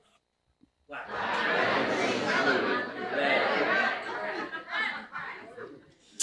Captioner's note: crowd